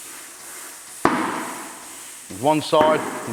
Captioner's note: loud popping